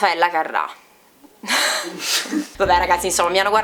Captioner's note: laugh